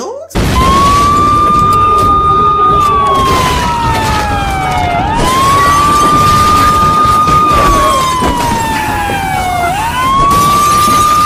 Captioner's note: police siren and people breaking in and destroying stuff